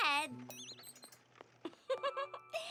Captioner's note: poink!; chuckles